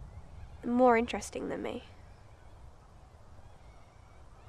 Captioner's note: none